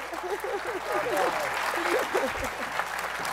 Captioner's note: laughs